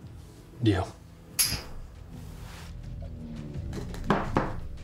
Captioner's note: glasses clink; glasses thud